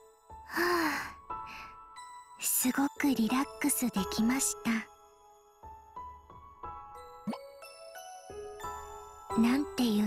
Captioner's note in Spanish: suspiro